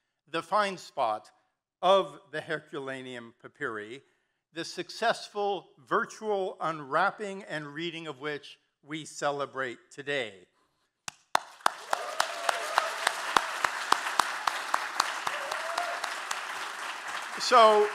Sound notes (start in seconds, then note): 11.3 claps; 11.3 audience cheering and applauding